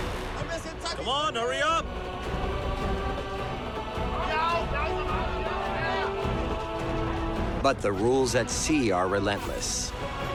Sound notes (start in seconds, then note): 3.8 men shouting